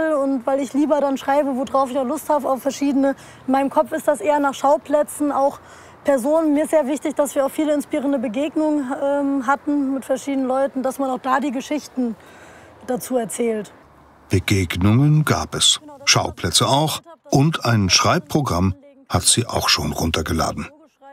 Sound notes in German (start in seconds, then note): none